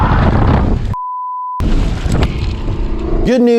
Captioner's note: heavy wind blowing; beeps